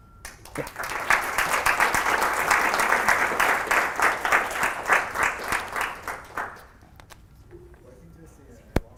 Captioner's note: applause